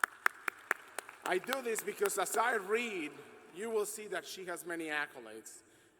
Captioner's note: applause